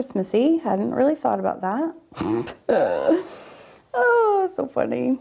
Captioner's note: laughs